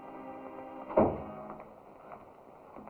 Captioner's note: door closes